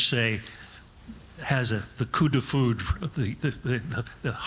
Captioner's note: speaking in foreign language